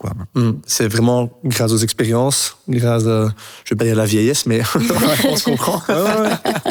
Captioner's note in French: rire